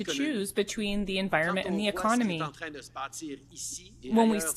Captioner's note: speaking French